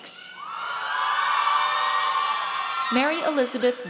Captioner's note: audience cheers